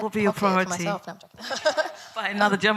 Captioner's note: laughs